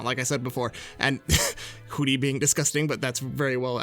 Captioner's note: scoffs